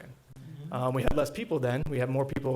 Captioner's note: board murmuring agreement